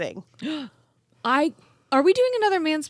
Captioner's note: gasping